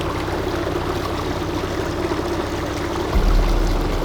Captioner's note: water splurging